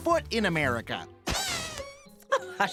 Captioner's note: deflating